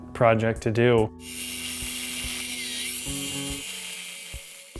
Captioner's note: machine whirring